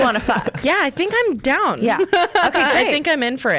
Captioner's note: laughs